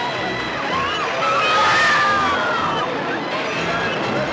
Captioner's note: woman screaming